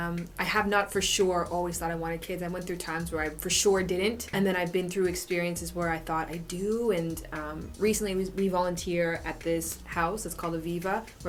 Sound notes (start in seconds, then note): none